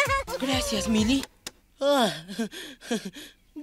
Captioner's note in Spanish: Lou se rie